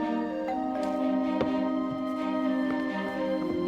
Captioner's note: doorbell rings